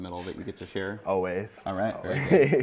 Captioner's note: laughs